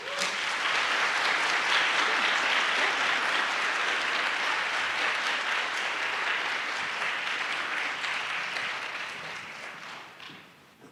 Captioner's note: applause